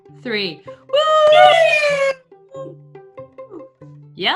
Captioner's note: cheering